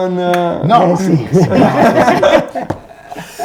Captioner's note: laugh